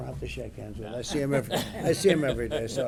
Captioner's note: laughter